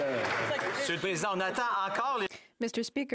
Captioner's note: speaking French